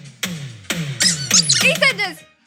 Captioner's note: jingle music; squeak; jingle music